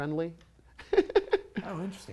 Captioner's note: light laughter